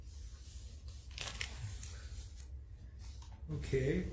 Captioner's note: papers crackling